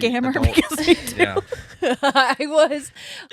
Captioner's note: laughing